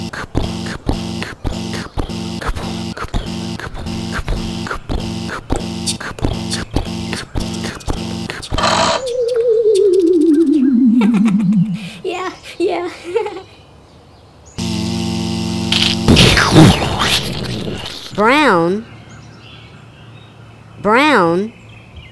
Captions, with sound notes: [ pounding footsteps] [ click] [ powering down] ha ha ha yeah, yeah [ buzz] [ crunch] [ explosion] Brown Brown